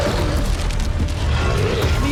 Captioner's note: demonic roaring